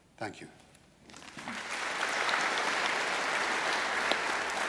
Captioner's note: audience applauding